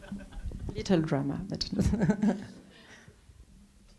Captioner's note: laughs